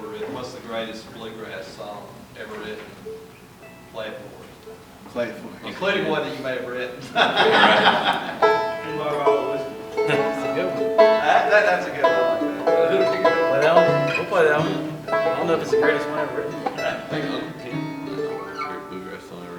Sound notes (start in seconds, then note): 7.2 laughter